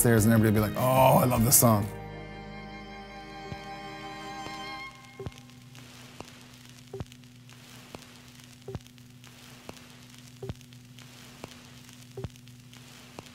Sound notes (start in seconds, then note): 3.4 static; 4.8 beeping